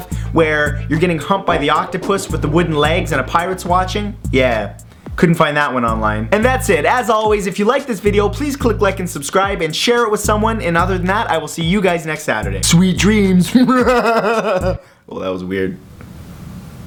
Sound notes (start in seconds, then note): 12.6 voice changed; 13.4 evil laugh